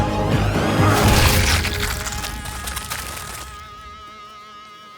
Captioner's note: goo splatters